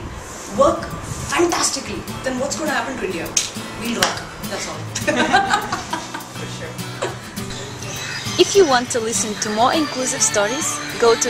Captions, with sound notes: work fantastically then what's going to happen to India? We'll rock! That's all! (laughing)